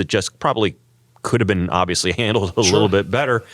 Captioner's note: laugh